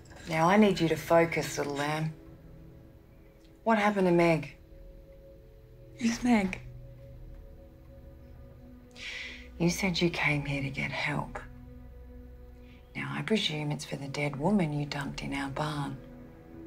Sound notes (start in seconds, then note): none